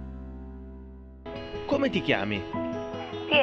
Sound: director speaking Italian

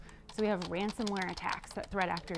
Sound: keyboard clacking

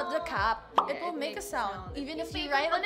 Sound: pop

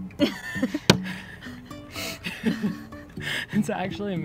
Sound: laughing

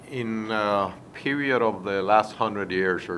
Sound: MAN, latin american accent

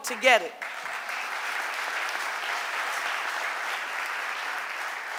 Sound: audience applauding

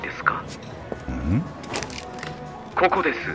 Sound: Jack grunts inquisitively

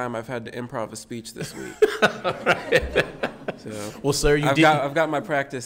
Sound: audience laughing

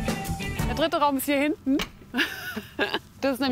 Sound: laughs

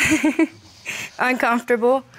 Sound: laughs

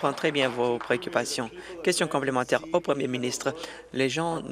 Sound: applause

